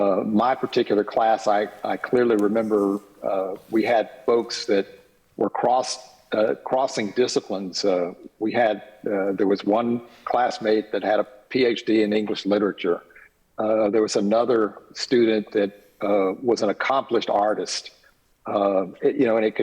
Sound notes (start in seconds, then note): none